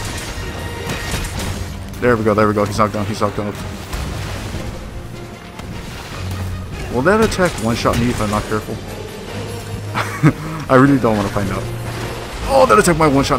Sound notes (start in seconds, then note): 9.9 laughs